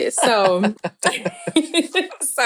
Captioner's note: chuckling